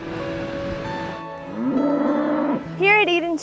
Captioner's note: cows mooing